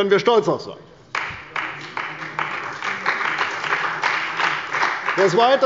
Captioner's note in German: Beifall bei der CDU und dem BÜNDNIS 90/DIE GRÜNEN